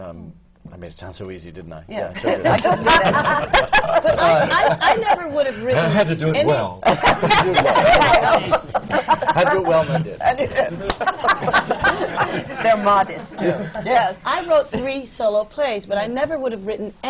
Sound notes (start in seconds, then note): 2.2 laughter; 7.5 laughter; 12.4 laughs